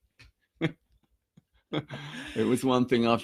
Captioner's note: both laughing